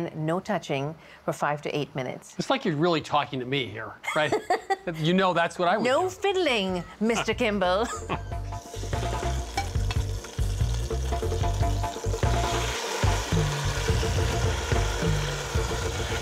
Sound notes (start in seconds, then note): 7.8 laughter; 9.5 pot sizzling